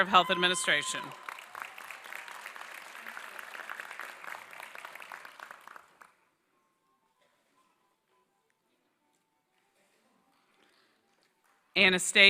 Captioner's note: applause